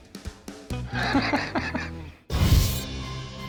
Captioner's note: laughs